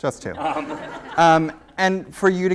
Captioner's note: laughter